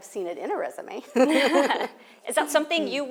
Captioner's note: laughter